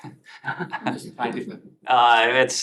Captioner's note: laughter